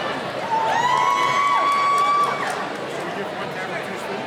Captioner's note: cheering